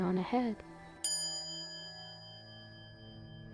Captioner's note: quiet chime